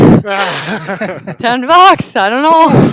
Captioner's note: both laugh